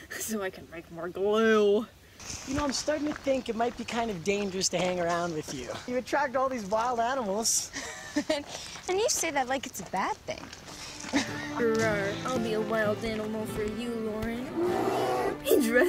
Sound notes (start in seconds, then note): 8.3 giggling